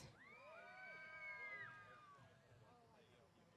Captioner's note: cheers